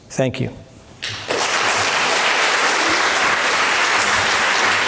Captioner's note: applause